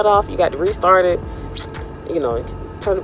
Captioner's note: sucks teeth